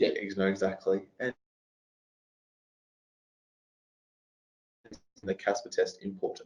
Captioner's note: audio distorts